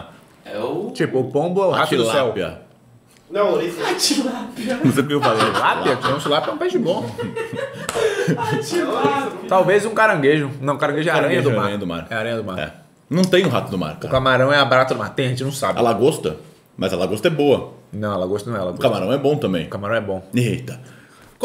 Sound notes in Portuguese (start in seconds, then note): 4.1 risos